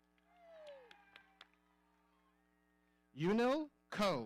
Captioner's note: audience cheering